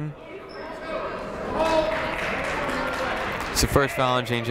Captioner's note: crowd clapping